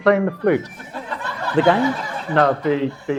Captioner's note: audience laughs